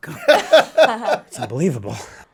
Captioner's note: all laughing